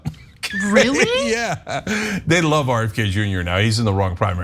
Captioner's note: laugh